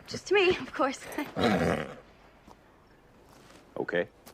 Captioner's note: snorts